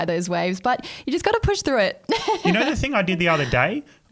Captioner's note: laughing